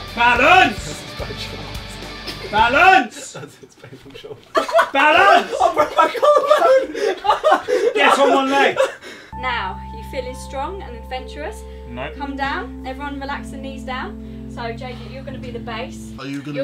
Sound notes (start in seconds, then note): 5.8 Vik shouting